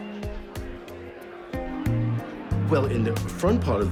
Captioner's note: people talking in background